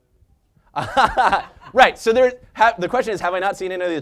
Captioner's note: laugh